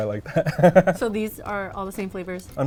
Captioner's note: laughs